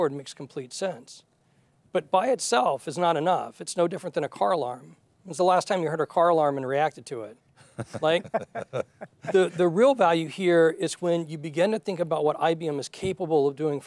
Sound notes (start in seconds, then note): 7.6 participants chuckling